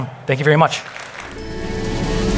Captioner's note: audience clapping; upbeat music